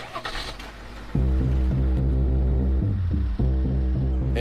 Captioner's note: engine starts